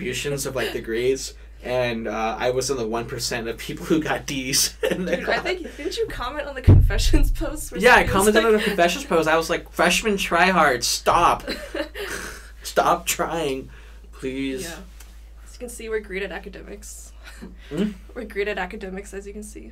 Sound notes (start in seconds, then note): 4.6 laughs; 11.4 both laugh